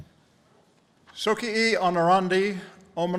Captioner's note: speaking latin